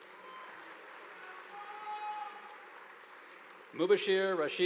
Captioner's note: audience applauding